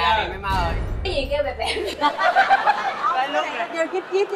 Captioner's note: laughing